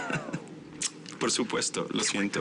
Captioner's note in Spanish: Ríe